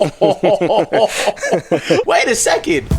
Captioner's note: both laughing